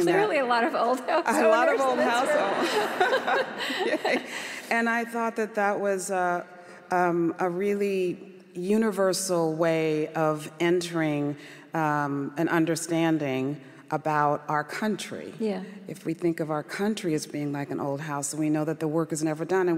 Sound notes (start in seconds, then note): 4.5 laughter